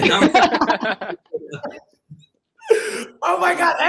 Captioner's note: all laugh